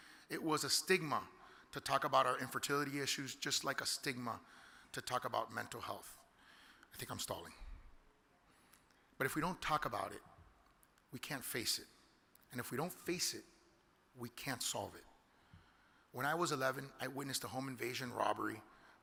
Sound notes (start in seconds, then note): none